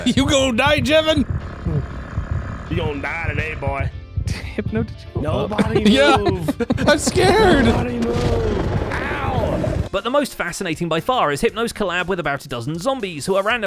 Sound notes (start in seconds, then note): 1.6 laughs; 2.0 Warden growling; 8.6 mock whispering